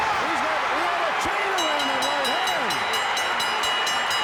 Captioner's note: fans cheering; bell dinging